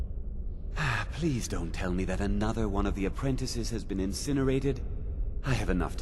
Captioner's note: sigh